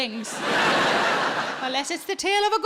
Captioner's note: audience laughs